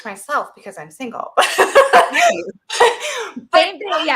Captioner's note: laughs